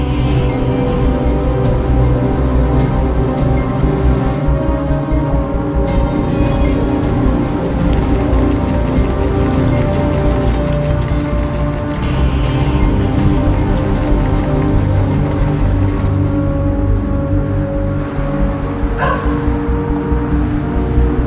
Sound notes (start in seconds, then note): 7.8 boot tapping; 18.9 dog barks